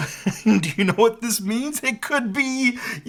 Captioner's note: chuckles